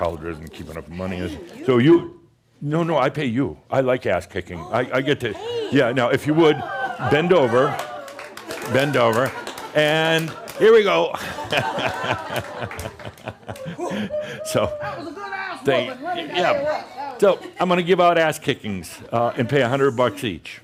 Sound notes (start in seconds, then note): 6.4 audience says “Woo!” and some applause; 8.8 pretends to kick her in the butt, laughter